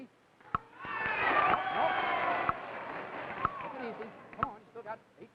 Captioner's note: audience cheers